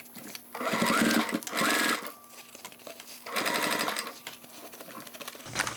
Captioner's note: sewing machine whirring